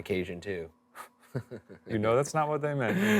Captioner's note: chuckling